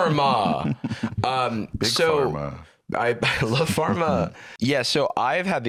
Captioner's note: laughs